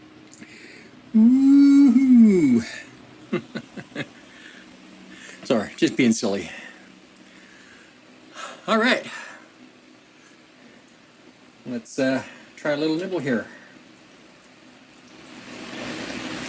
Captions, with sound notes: (laughing) Sorry, just being silly. All right. Let's try a little nibble here.